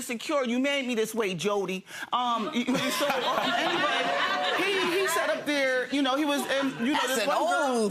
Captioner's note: audience laughing